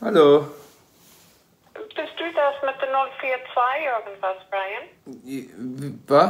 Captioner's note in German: Mutter